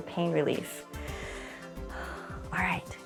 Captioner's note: inhales and exhales